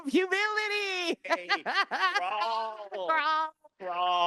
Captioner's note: laughing